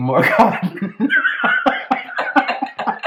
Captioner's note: laughter